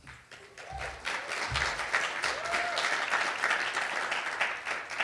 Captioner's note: audience applauding